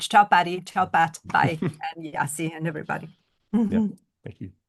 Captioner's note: chuckles